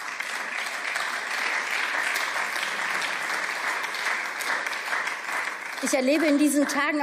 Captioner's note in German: Beifall